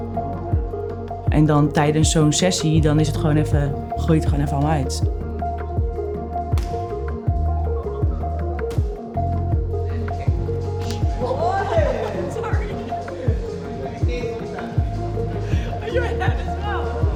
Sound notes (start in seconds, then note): 10.8 painful laughter